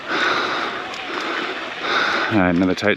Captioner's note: biker panting